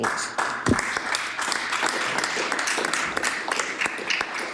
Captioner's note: some Applause